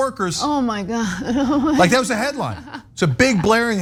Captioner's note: laugh